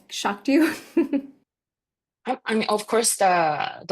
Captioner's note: chuckles